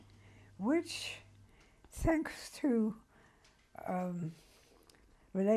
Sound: pauses for 3 seconds

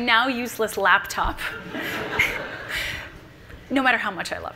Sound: audience laughing

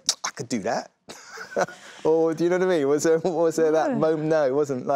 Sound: laughs

